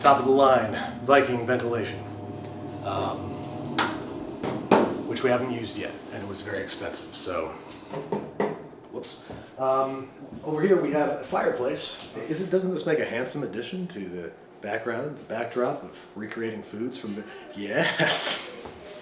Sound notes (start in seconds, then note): 7.9 taps; 17.8 laughs